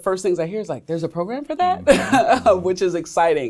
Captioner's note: laughs